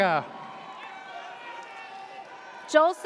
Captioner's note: audience cheers